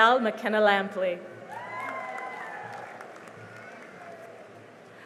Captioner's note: cheering and applause